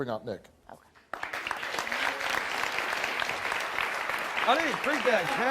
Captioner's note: audience clapping